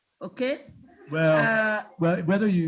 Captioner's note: students laughing